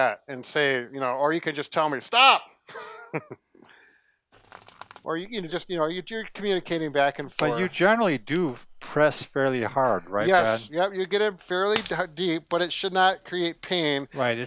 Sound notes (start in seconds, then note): 2.7 laughs; 4.8 crackling sound